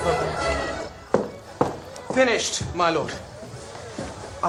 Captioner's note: shoes tapping